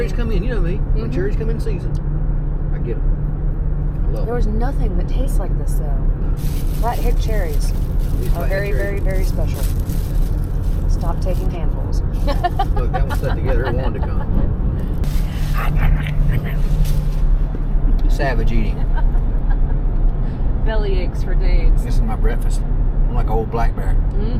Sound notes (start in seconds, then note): 12.2 laughing; 14.8 horrible eating noises; 15.3 laughing